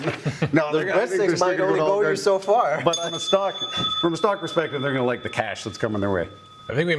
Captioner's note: rings the bell